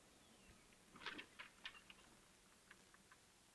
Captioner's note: door